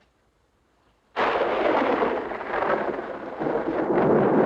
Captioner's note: thunderclap crashing